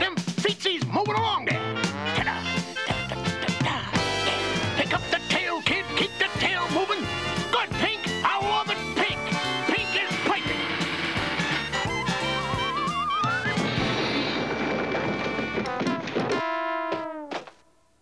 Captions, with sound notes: Get them feetsies moving along, there. Pick up the tail, kid. Keep the tail moving. Good, Pink! I love it, Pink! Pink is plinking! (CRASHING)